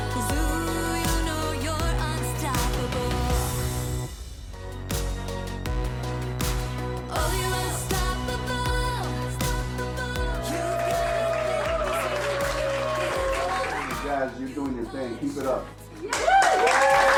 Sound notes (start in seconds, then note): 4.7 soft upbeat music; 10.4 students applauding and whooping; 16.1 students applauding and whooping